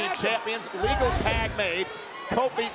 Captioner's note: audio whooshes